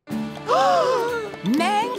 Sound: gasping

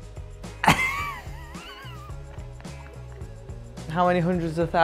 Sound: laughing

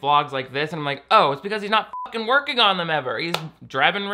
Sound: beep

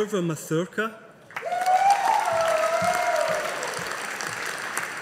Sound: audience applauding

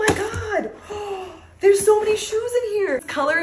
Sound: gasps

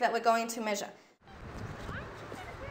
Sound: students chatter inaudibly

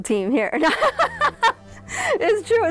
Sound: laughing

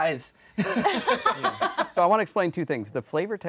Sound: laughing

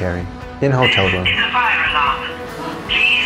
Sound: sound of fire alarm

